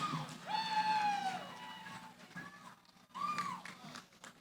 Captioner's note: cheering; applause